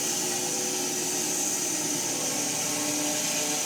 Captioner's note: mill whirring